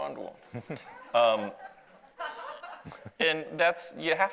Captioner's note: audience laughs